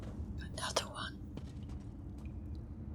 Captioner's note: whispers